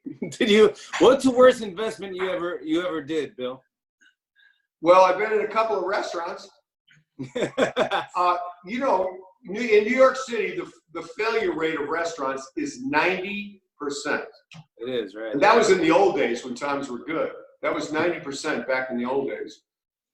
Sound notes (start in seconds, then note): 7.2 laughs